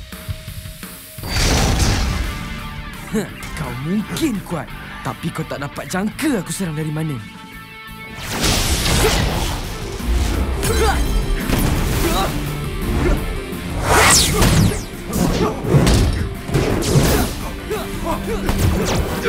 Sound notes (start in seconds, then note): 1.2 slow crash; 7.6 energy bursts; 13.7 fast whoosh